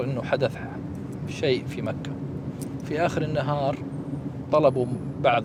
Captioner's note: speaking in Arabic